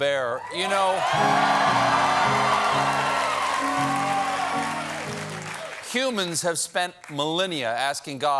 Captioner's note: cheers and applause